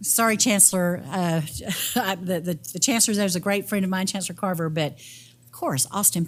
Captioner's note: laugh